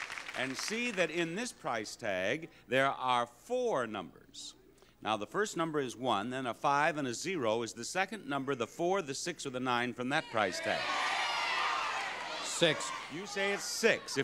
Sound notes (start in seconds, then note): 10.2 audience jeering